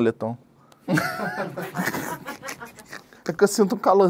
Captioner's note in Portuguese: risadas